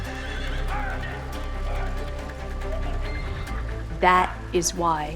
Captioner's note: horse whinnying; shouting